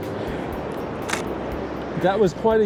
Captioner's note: camera shutters